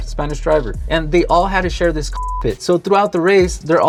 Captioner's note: beep